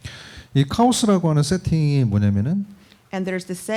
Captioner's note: speaking korean